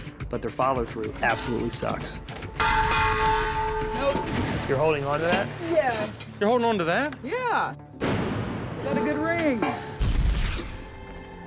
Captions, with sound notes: follow through absolutely sucks. [banging] Nope. You're holding on to that? Yeah. You're holding on to that? Yeah. It's got a good ring.